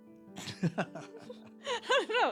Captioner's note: laughter